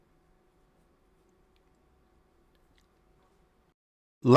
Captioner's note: silence